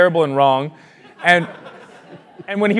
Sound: laugh

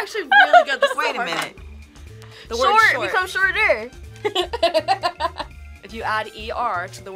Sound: laughs

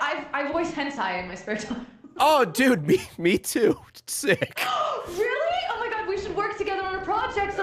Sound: gasps

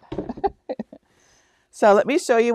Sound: laughs

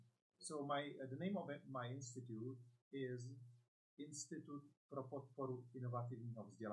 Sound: speaks in Czech

